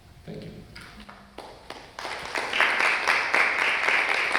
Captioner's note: audience clap